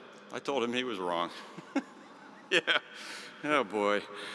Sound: chuckles

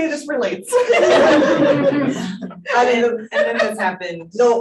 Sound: panel laughing

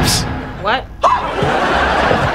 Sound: shrieking

